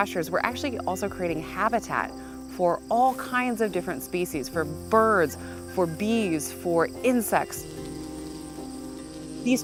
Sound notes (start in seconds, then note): 6.8 bumblebee buzzing